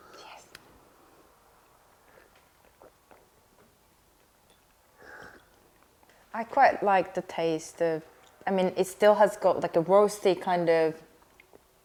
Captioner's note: sips tea